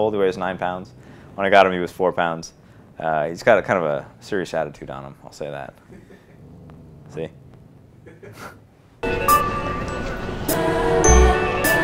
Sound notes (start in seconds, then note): 5.6 laughing in background; 9.1 playful music